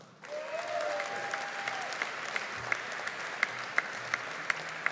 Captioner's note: audience applauding